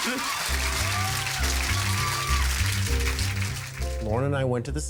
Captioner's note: crowd applauding